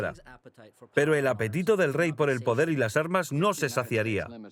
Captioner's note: speaking in a foreign language